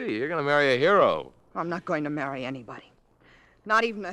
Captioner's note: none